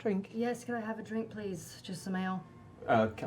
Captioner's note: deadpan